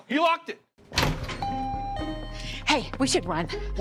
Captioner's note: bell chiming